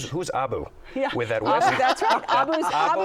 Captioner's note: laughter